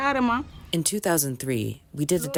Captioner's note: through translator